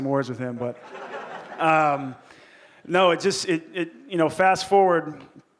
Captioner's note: audience laughing